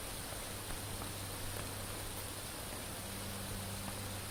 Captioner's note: clacking